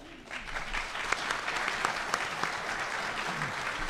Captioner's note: clapping